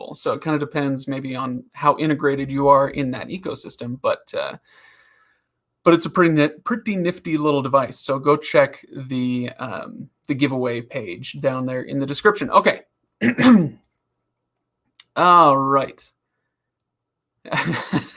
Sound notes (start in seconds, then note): 13.2 coughs; 17.5 laughs